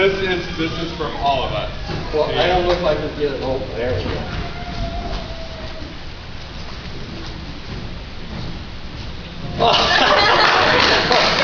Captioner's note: laughter